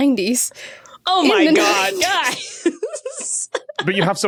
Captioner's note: laughs